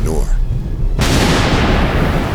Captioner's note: gunshot